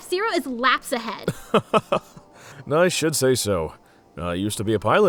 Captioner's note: laughs